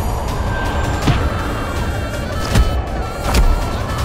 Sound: whack

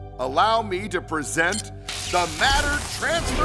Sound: beeps

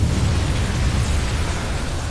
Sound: none

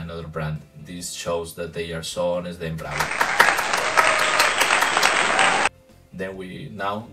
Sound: clapping

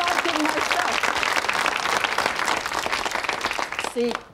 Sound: audience clapping

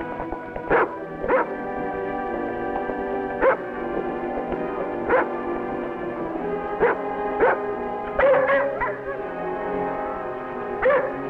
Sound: dog barking

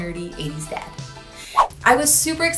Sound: swooshing

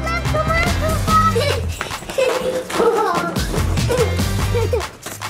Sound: children laughing

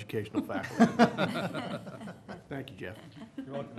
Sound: laughter

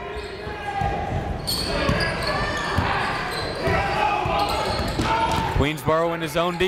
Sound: crowd talking; coaches yelling

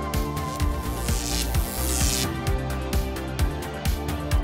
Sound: electricity zapping

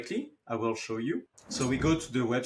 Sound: graphics whooshing

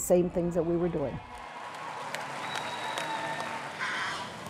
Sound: loud applause

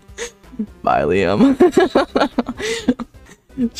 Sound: laughing

